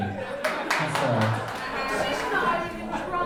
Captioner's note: audience laughing